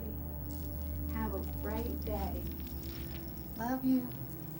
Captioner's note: beads rattling